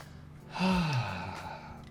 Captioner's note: relaxed sigh